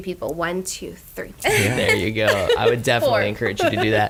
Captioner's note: laughs